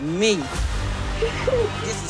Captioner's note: sobbing